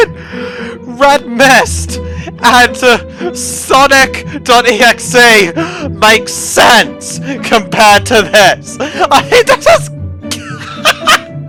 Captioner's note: more random laughter